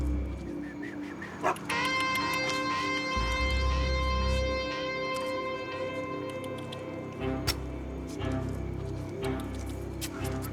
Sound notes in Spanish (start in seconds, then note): 3.8 Ladridos